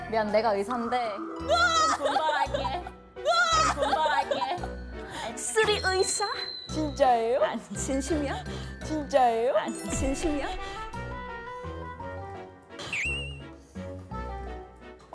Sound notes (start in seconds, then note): 3.4 surprised